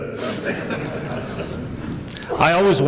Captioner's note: laughter